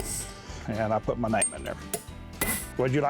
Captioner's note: hammering